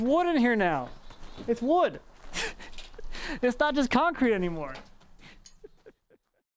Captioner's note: laughs